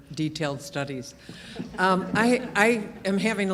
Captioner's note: group laughing